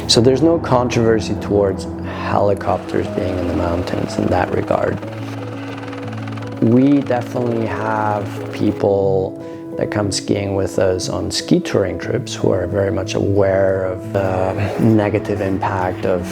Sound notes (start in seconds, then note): 5.6 helicopter whirring